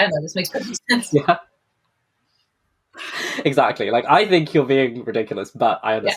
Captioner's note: laughs